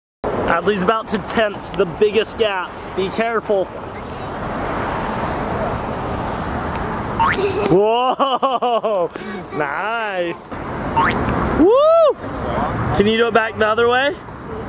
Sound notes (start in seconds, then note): 7.2 boings; 7.2 giggles; 10.9 boings